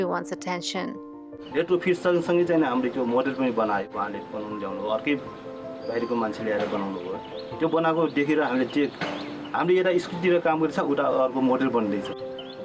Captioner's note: non-english speech